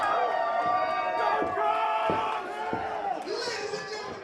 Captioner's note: crowd cheers